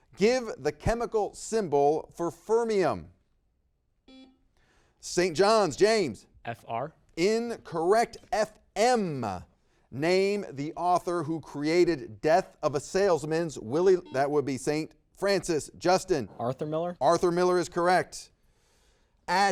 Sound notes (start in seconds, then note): 4.0 buzzer beeps; 13.8 buzzer beeps